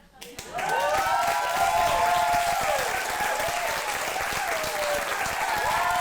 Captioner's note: audience applauds and cheers